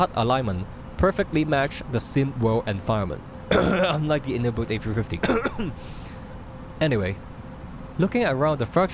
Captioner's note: cough, unlike the IniBuilds A350 cough!